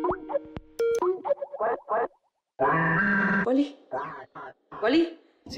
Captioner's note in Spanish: voz distorsionada